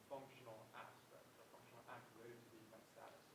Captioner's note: student speaking faintly